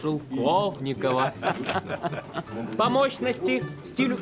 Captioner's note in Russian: смех